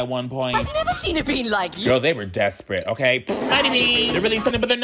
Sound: lip-trilling

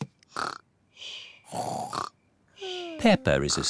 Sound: snores

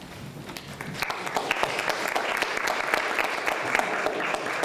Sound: applause

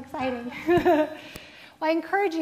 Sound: laughing

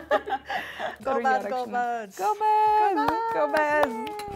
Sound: both speaking Amharic

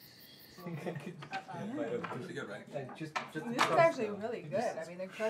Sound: birds chirping; bugs chirping; group chattering

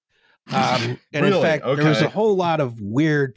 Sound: snorts

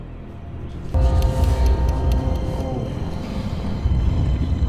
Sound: bell chimes

